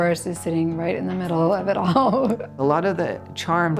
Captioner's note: laughs